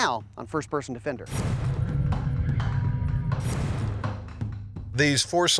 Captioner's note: electronic whirring